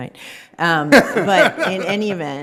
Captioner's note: judge in background laughing